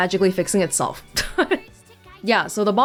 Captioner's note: chuckles